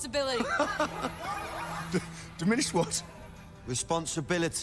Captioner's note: laughs